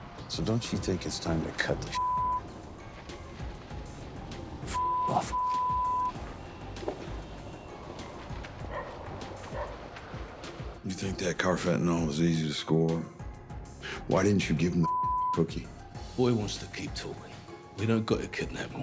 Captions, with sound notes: So don't you think it's time to cut the (beep)? - (beep) off, (beep). (dog barking) - You think that carfentanil was easy to score? Why didn't you give him the (beep) cookie? - Boy wants to keep talking. We don't got a kidnap 'em,